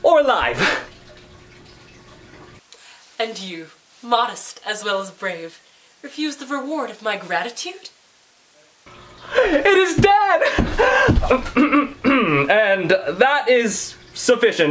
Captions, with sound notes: or alive? - And you, modest as well as brave, refuse the reward of my gratitude? - It is dead! (clears throat) And that is sufficient.